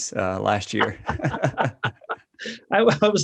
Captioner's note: both laughs